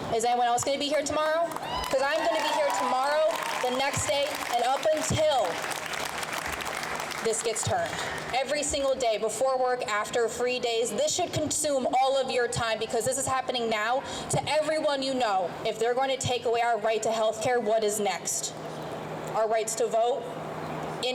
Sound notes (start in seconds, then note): 1.2 crowd cheers; 5.9 crowd claps